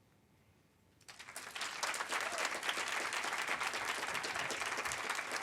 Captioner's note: audience applaud